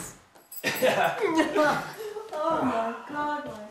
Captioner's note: laughing